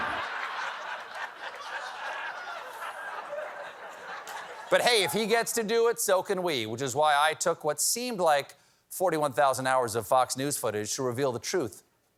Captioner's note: sound effect